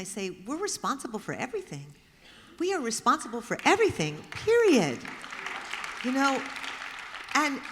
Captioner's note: applause